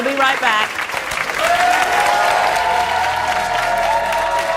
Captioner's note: audience applauds